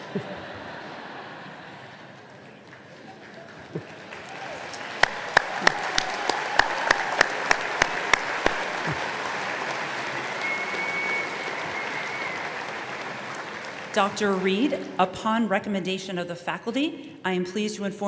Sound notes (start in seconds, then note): 0.0 laughter; 3.3 applause